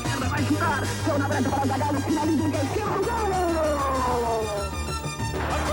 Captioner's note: announcer speaks native language